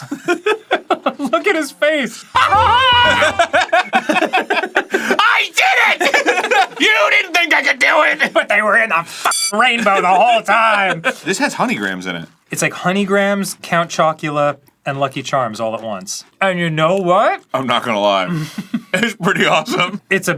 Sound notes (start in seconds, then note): 2.3 maniacal irish cackling; 2.4 normal american laughter